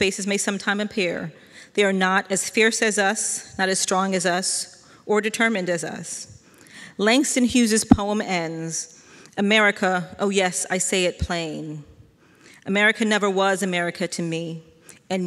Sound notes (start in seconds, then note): none